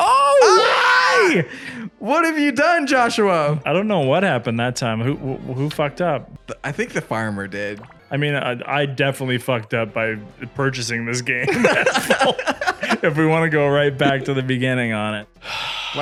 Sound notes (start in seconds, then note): 11.4 both laughing